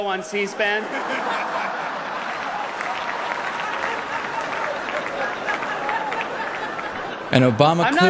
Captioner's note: laughter and applause